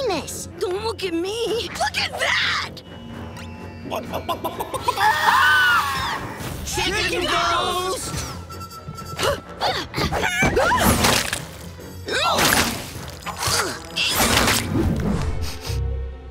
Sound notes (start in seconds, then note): 3.4 squawking; 4.9 screaming; 8.9 grunting; 15.2 sniffing